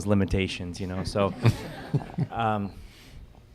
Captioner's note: laughter